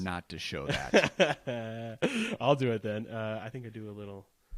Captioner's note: laughs